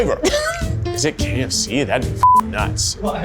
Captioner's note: beep